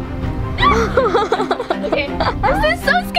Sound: laughs

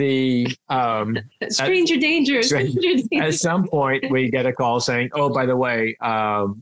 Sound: laughs

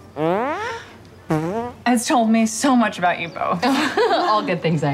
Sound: farts; all laugh

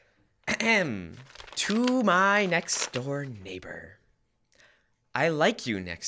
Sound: clears throat

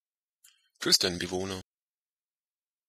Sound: fast Pronunciation

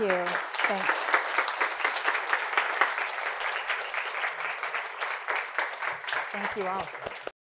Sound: applause

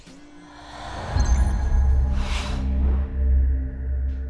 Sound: air whooshing

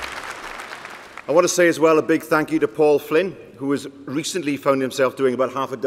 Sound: applause

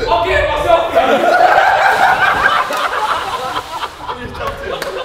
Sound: group laughs

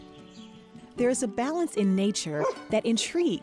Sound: dog barks

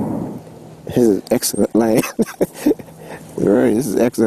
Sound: chuckles

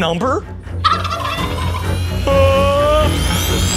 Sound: Thaddeus gobbles

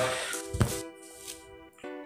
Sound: inhales; knock table

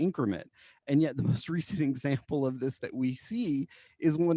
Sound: laughter

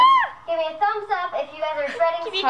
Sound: shrieks

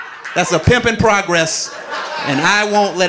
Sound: audience laughing

